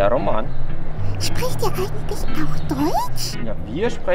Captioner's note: speaking in German